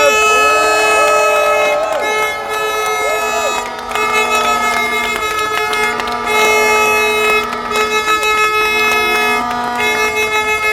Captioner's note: applause